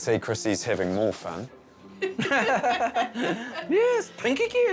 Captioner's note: both laughing